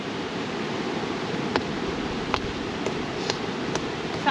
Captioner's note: hammering